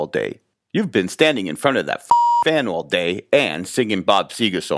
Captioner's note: beep